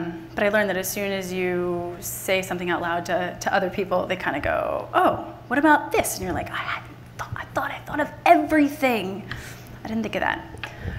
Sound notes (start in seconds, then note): none